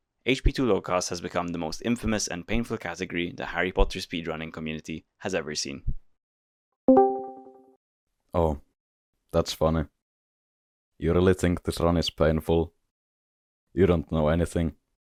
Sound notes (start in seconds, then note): 6.9 discord vc join sound